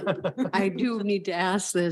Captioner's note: board Trustees chuckle